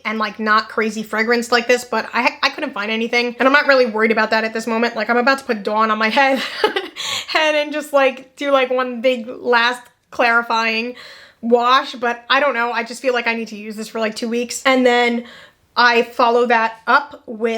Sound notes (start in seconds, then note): 6.3 laughs